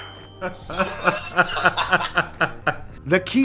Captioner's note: laughs